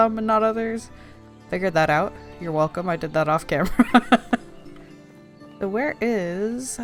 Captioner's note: laughs